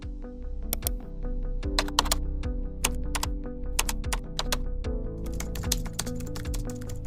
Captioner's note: computer Typing and Mouse Click